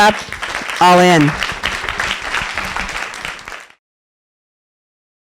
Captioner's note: applause